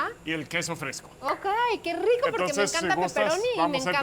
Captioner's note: both speaking Spanish